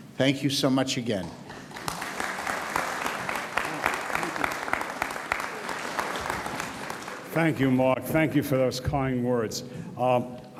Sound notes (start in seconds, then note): 1.5 audience applauds